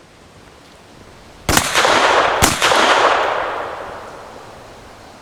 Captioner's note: gun shots